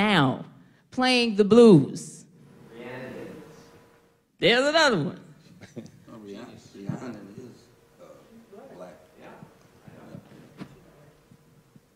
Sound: audience responds

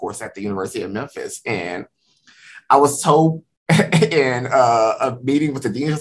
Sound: laughs

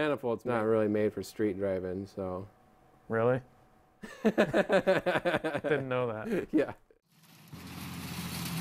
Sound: laughs

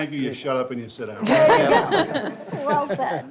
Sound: all laugh

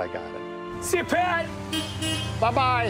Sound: car honking

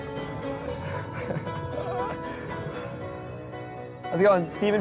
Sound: upbeat music; laughing

